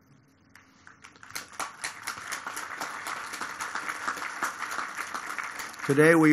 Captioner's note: applause